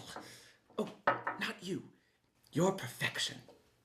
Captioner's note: clanking